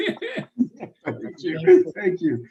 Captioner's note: laughs